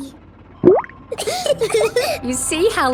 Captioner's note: bubbles; laughing